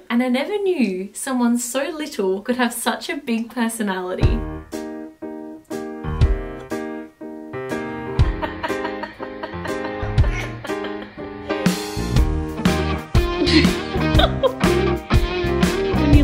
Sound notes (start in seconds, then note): 4.5 lighthearted music; 8.2 laughing; 13.4 laughs